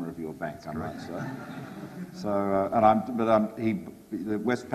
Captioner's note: audience laughs